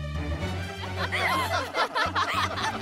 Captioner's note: laughing